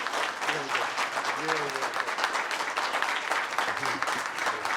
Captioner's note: applause